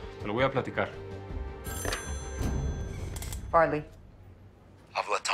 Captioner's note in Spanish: Suena el teléfono